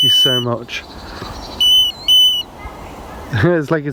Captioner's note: beeping